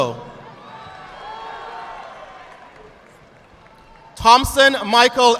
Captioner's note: audience clapping